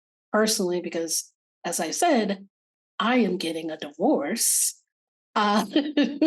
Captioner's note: laughing